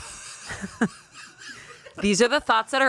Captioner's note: everyone laughs